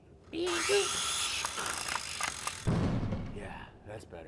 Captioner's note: tools whirring